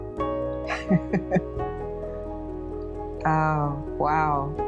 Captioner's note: laughs